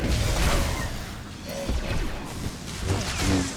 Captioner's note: gunshots